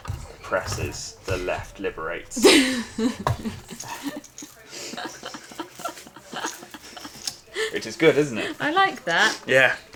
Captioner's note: giggles